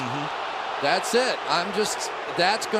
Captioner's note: crowd clamoring